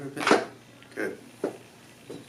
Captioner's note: popping